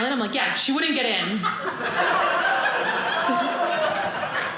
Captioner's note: audience laughing